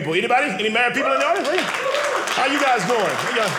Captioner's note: audience applauding